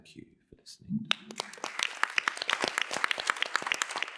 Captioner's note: applause